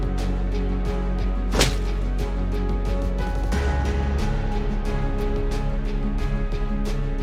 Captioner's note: A slap sound